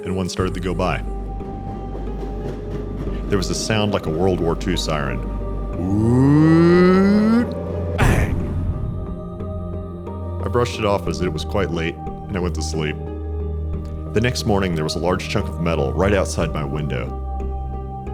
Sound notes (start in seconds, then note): 0.5 approaching train noises; 5.6 tiger made WWII siren sound; 7.9 bang!